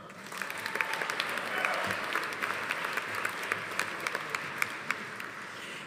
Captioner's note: audience applauding; audience cheering